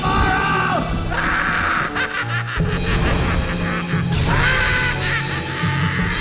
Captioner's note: screams in psychotic glee